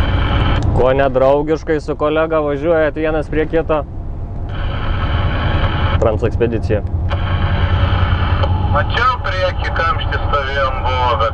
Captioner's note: talking on the CB radio